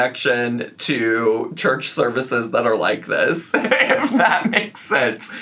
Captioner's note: laughs